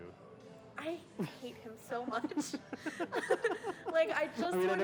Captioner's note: laughs